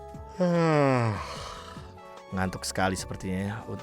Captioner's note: yawn